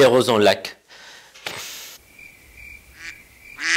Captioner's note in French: Chant des cigales; Bruits de canards